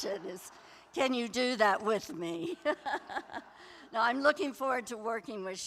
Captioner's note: laughter